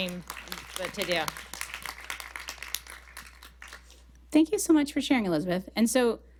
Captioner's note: applause